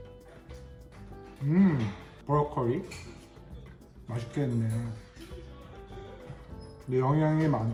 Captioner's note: upbeat music; speaks Korean